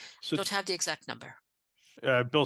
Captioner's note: speaking French